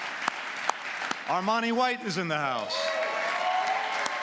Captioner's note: applause